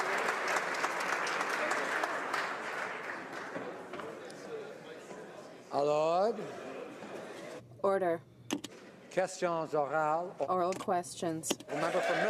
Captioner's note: some Applause